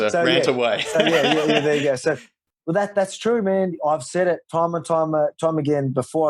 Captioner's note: laughs